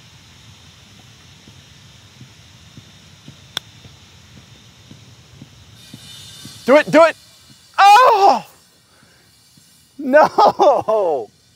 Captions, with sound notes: Do it, do it. [screams] No! [cries]